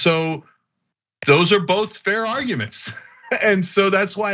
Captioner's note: laugh